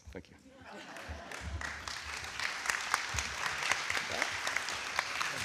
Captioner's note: attendees laughing clapping